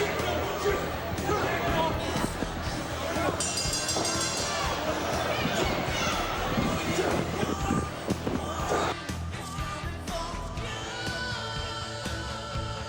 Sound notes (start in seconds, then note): 8.4 bell ringing; 10.4 crowd chatter